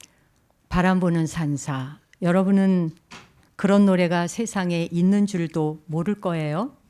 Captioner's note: speaking in Korean